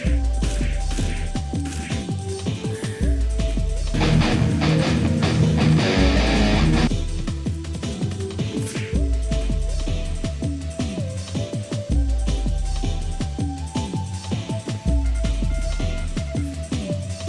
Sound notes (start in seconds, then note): none